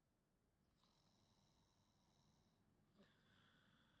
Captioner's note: snoring